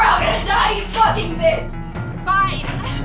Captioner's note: arguing